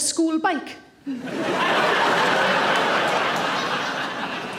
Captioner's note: audience laughing